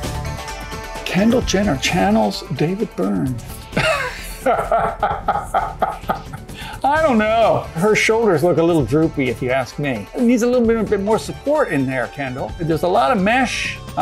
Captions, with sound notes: Kendall Jenner channels, David Byrne. (laughs) I don't know. Her shoulders look a little droopy if he asked me and needs a little bit of, a bit more support in there Kendall. Well, there's a lot of mesh.